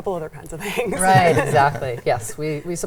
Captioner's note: laughs